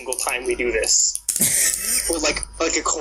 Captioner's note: laughs, except it sounds more like wheezing